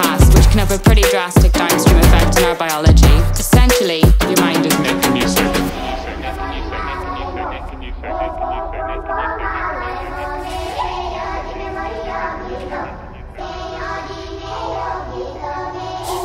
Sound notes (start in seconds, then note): 5.6 distant voice, echoing; 11.3 choir continues